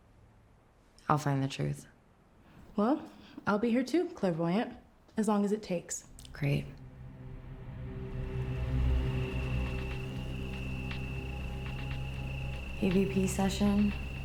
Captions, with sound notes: I'll find the truth. - Well, I'll be here too, Clairvoyant, as long as it takes. - Great. (ominous music) (crickets chirping) EVP session.